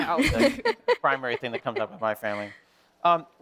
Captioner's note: laughing